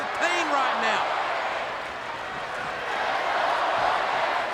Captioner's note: crowd chanting